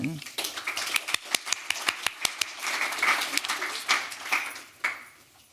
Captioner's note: applause